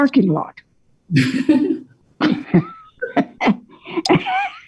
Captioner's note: everyone laughing